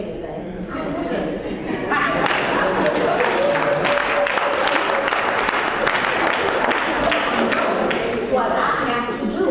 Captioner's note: applause